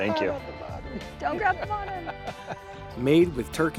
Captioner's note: Baratunde laughing